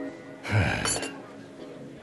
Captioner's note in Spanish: suspira